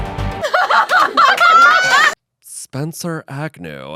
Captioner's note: dramatic music; everyone laughs